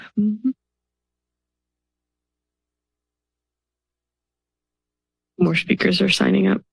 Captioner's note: silenve